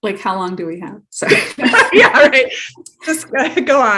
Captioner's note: both laughing